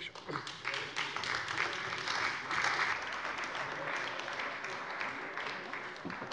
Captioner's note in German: Beifall bei der CDU und dem BÜNDNIS 90/DIE GRÜNEN